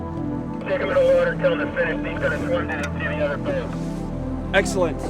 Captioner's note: instructor over radio